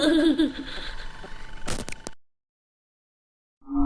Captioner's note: glitch sound